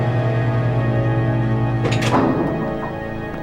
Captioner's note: door clangs